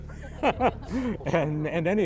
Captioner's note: panel laughs